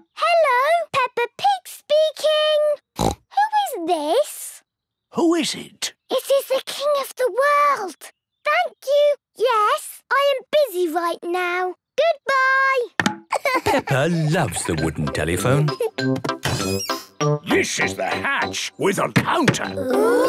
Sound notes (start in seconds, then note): 2.9 snorts; 13.3 laughing